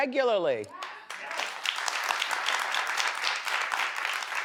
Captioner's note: audience claps